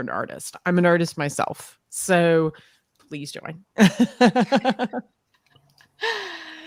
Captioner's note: laughs